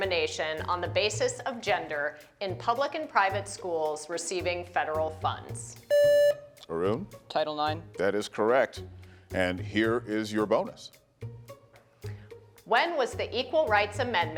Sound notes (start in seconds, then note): 5.9 buzzer beeps; 10.8 gentle music